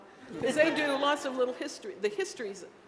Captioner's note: laughter